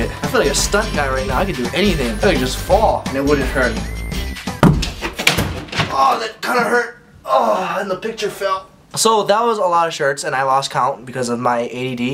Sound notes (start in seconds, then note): 4.4 door and picture clatter; 4.6 thunk